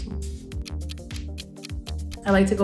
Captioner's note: clock ticking